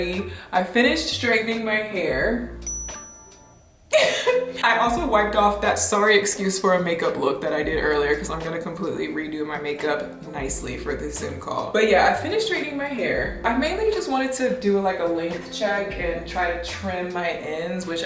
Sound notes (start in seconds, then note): 2.6 star dings; 4.0 laughs